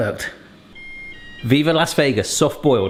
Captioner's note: alarm rings